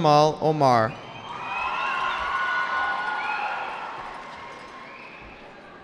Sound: cheering

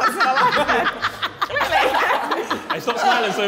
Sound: all laughing

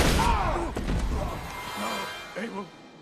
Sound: screaming

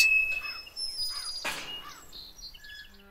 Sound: gate squeaking

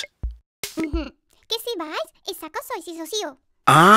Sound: giggles and speaks gibberish

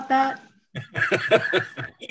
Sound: laughs

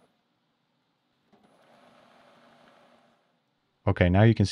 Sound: lathe machine whirring

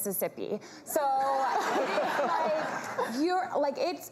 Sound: laughter

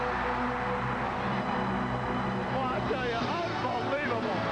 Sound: crowd cheering

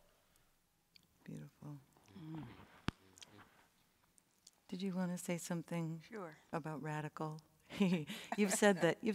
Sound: laughs

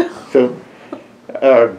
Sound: laughter

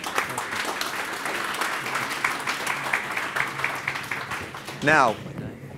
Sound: audience claps

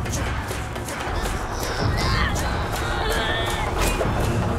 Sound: groaning

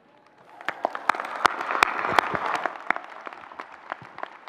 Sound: audience clapping

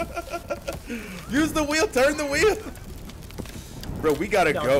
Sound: laugh

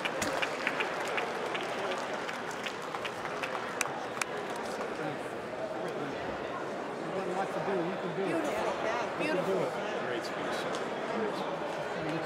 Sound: applause

